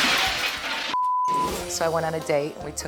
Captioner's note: glass shattering; beep